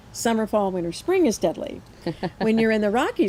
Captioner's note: laughs